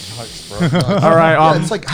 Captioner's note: exhales deeply